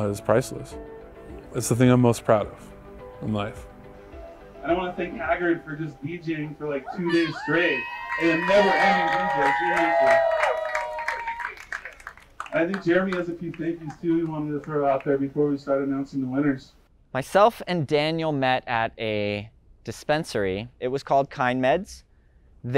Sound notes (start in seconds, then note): 7.4 crowd cheering; 10.2 crowd applauding